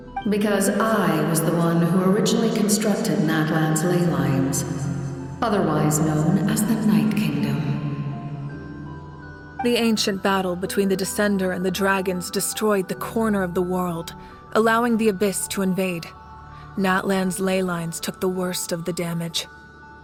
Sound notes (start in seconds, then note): none